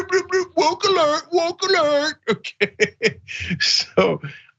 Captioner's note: laugh